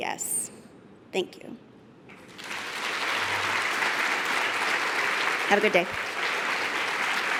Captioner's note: applause